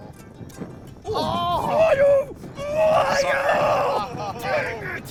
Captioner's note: grunting